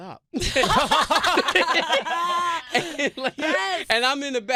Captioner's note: laughter